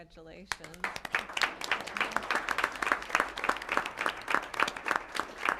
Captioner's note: applause